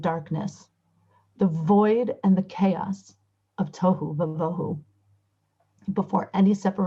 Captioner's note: Hebrew